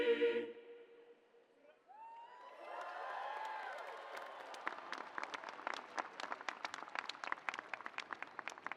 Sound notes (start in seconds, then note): 1.9 audience cheering